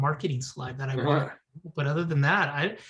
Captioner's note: laughs